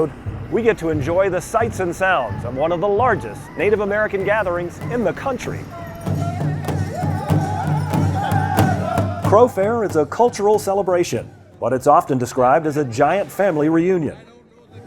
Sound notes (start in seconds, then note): 5.7 dancers exclaiming; 5.7 drums beating